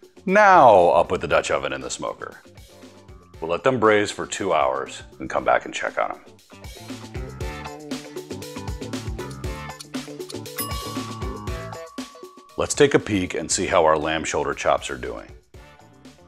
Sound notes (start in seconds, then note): 6.5 funky music; 10.6 timer ringing